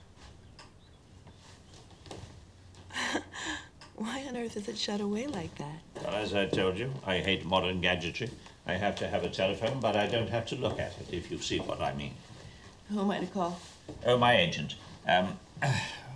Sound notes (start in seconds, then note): 2.9 chuckles